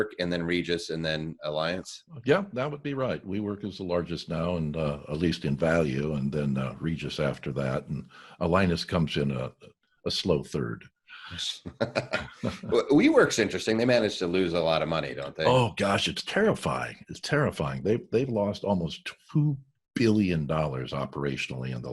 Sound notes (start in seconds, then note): 11.2 laughs